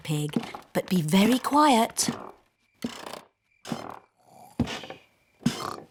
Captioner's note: stairs creak softly; both snore